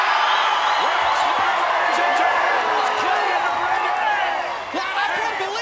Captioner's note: crowd cheering; crowd cheering drowns out Vince